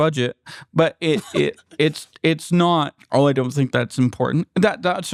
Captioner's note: laughter